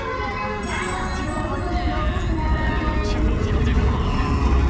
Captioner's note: sound gets more and more distorted